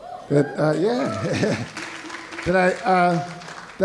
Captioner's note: audience cheering